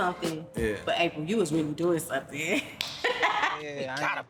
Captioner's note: laughs